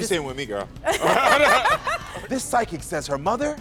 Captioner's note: both laughing